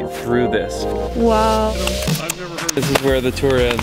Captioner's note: teeth and tongue clicking